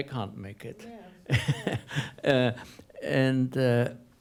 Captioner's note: laughs